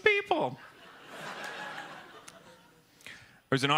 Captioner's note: laughter